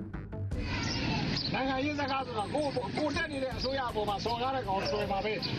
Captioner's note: speaking foreign language